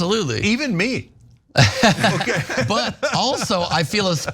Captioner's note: laugh